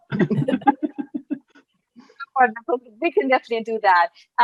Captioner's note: laughs